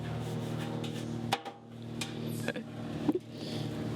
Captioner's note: metallic banging